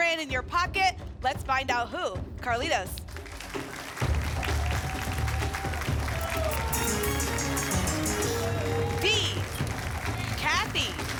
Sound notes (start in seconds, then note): 2.9 applause; 6.7 pinging sounds; 10.9 applause